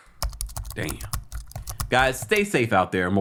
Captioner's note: keyboard clicking